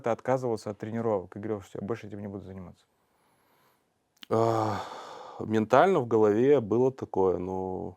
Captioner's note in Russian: вздыхает